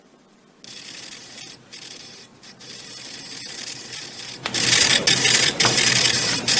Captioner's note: amplified static sounds